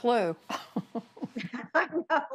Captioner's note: laughter